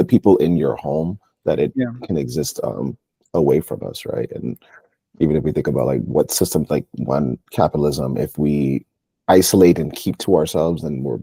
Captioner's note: laughs